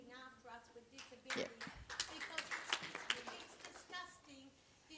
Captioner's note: applause drowns out speech